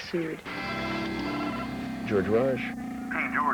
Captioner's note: telephone rings